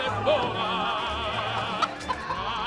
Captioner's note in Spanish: gallina cacarea